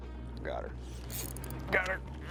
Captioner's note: reel ratchets